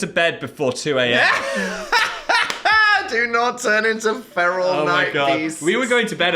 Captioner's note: laughs